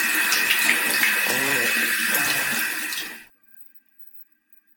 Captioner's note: moaning